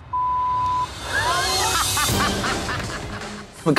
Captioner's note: laughing